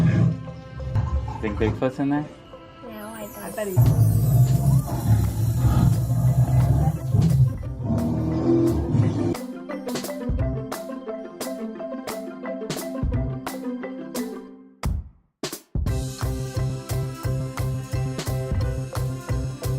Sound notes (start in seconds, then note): 4.1 growling; 9.3 happy music playing